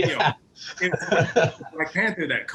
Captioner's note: laughs